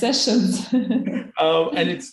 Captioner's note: both laughing